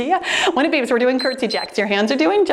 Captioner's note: timer beeps